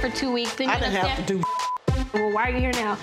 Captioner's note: beep